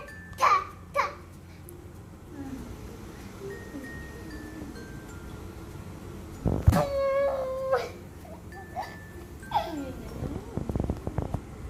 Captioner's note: kids playing